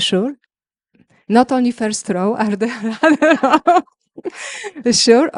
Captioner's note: laughs